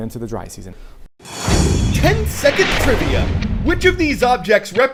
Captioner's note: voice-over